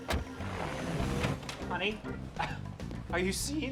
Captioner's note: scoffs